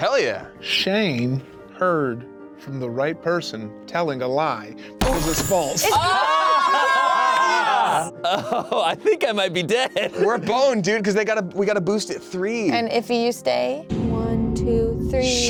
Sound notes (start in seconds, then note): 6.1 yelling